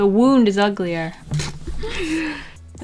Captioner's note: sigh of resentment